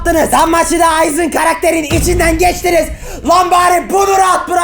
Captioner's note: takes a deep breath